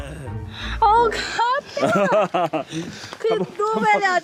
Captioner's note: Giggle